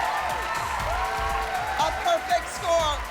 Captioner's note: whooping